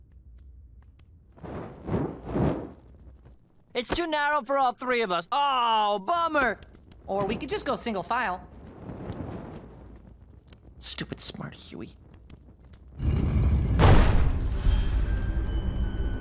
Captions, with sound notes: It's too narrow for all three of us. Oh, bummer! Or we could just go single file. Stupid smart Huey. [scraping, thud]